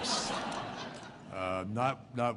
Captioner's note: laughter